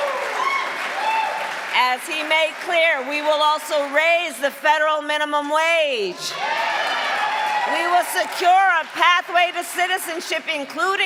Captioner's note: cheering and applause